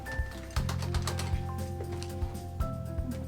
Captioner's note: material rustling; papers thudding; keyboard tapping; upbeat music continues